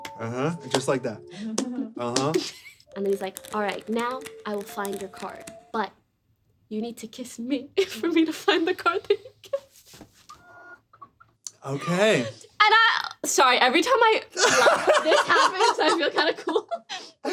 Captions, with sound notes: Yes, just like that. Yes. Yes. He's like, "All right, now I will find your card but you need to kiss me for me to find the card that you get." [laughs] Sorry, every time I laugh[laughter]